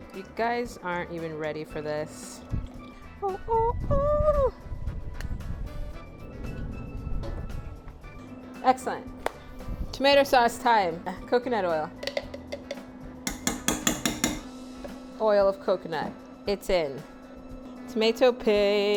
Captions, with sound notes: You guys aren't even ready for this. (sings) Excellent, tomato sauce time. Coconut oil. (tapping) Oil of coconut, it's in. Tomato paste.